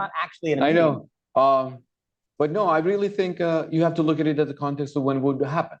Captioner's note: laughs